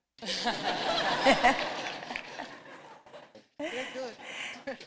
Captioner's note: laughter